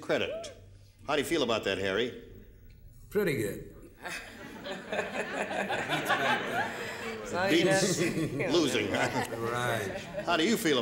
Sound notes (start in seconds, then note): 4.0 laughing